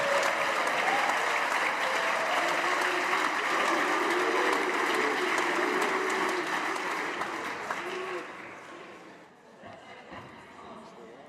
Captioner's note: cheers and applause